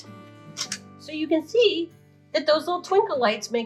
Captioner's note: camera shutter clicks